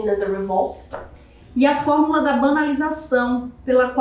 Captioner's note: speaking portuguese